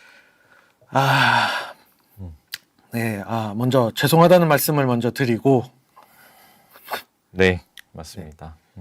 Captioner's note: sigh